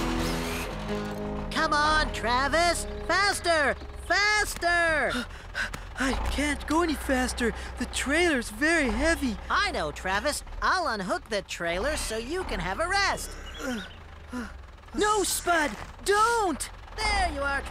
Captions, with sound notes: COME ON, TRAVIS, FASTER, FASTER! I...( Panting ) I CAN'T GO ANY FASTER. THE TRAILER'S VERY HEAVY. I KNOW, TRAVIS! I'LL UNHOOK THE TRAILER SO YOU CAN HAVE A REST. ( Travis Panting ) NO, SPUD! DON'T!